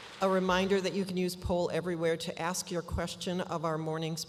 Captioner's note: applause